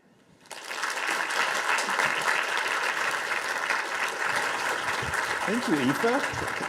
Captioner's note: audience applause